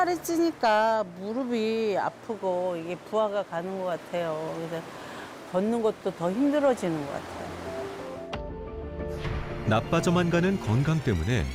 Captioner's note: voiceover